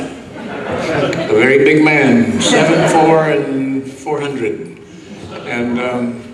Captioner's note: audience laughs